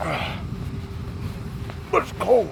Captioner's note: grunting